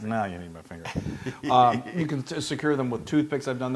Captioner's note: laugh